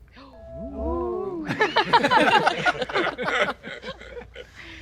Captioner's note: people laughing